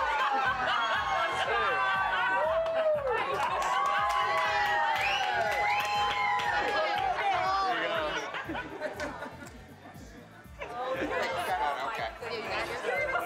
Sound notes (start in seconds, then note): 0.1 laughter, cheering; 3.5 cheering